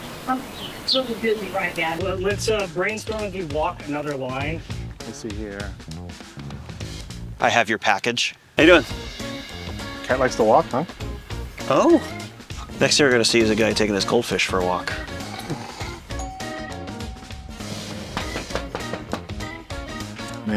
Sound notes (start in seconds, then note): 16.0 ringbell; 18.1 knocking